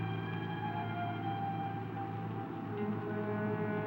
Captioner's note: car engine roaring